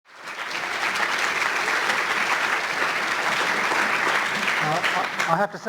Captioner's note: applause